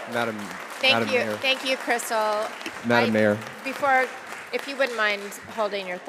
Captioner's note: applause